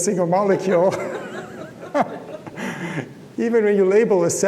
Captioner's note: laughs